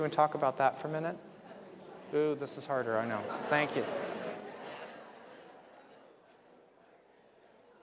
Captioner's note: audience members discuss amongst themselves